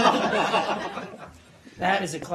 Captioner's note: laughter